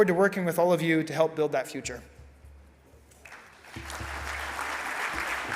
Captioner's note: audience applauds